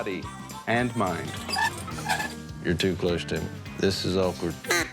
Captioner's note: chair squeaking; duck call